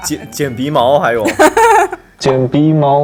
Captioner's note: hahaha